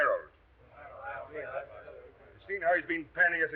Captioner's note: members muttering